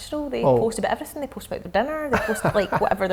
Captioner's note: laughing